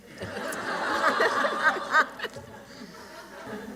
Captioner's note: laughter